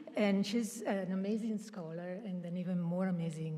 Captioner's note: none